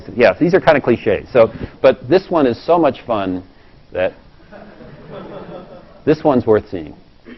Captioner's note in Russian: Смеется